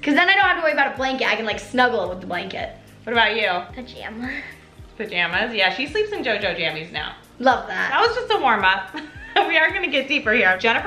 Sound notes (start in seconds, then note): 9.2 laughs